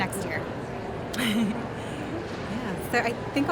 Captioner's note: laughing